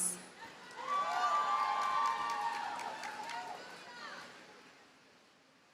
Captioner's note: audience cheers and applauds